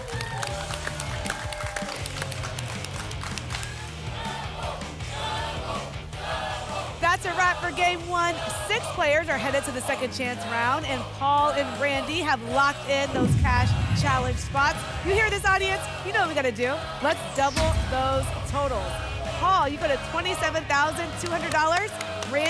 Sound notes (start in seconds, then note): 0.0 applause and cheering; 4.1 audience chanting "double!"